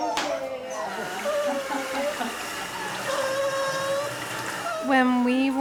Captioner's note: water running